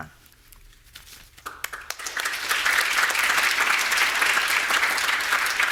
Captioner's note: audience applauding